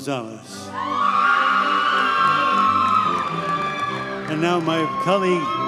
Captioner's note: audience cheers and applauds